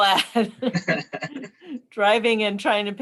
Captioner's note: chuckling